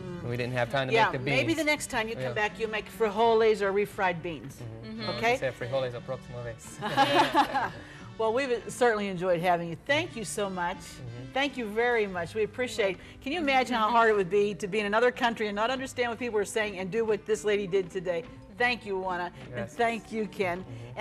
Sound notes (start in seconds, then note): 6.8 laughs